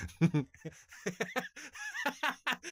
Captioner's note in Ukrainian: сміх